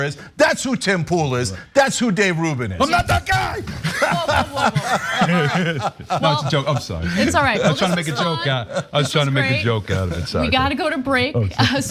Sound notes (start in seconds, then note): 4.6 laugh